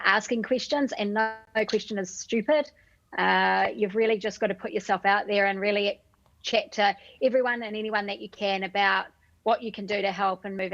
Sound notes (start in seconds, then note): none